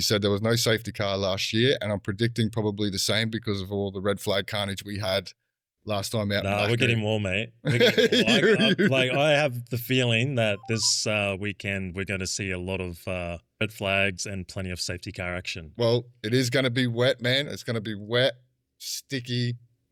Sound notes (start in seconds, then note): 7.7 laughing